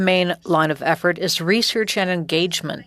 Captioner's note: speaking French